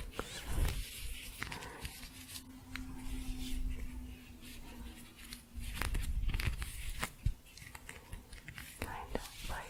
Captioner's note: shuffling and scratching